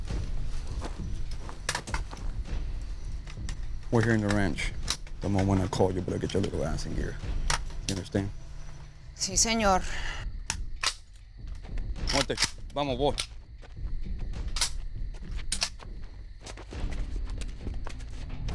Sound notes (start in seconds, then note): 0.0 drums continue; 12.0 guns cocking; 12.9 speaking Spanish; 14.5 cocking continues